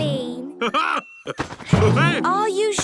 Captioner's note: laughs